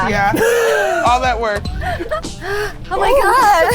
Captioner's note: sniggering